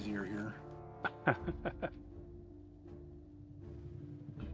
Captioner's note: laughs